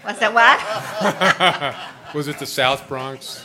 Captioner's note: laughter